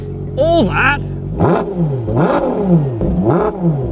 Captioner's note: revving